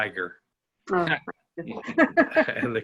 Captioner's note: laughter